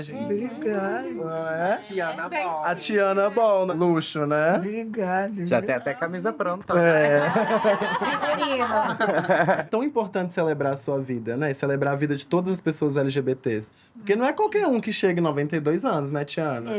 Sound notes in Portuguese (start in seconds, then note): 6.6 todos riem